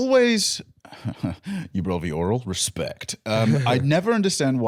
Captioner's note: chuckling